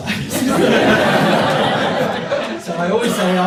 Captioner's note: audience laughs